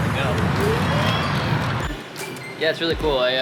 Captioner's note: electric motor whining